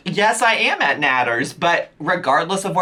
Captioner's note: none